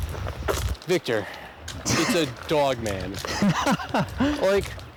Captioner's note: Victor laughs